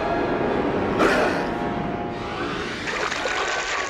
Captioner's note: growls